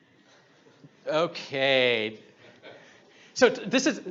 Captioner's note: audience laughs